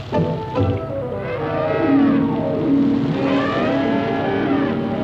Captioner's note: elephant trumpets